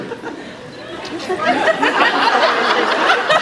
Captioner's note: laughs